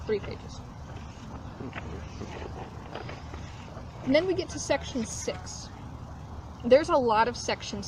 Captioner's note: shuffling of papers